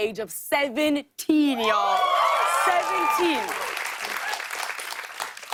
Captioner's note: cheers and applause